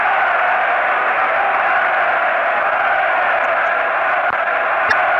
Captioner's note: applause